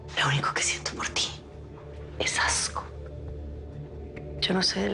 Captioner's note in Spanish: Susurra